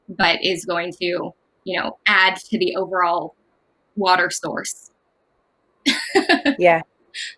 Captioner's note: laughs